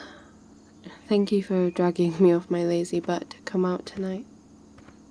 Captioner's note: footsteps